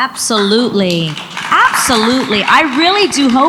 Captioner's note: audience applauds